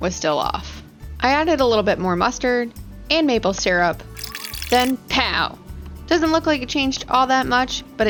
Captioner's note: pow